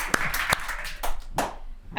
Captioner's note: applause